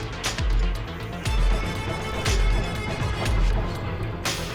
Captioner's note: doors thudding; dramatic music